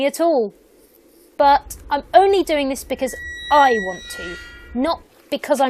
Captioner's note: gate creaks